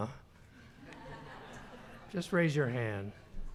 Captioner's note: laughter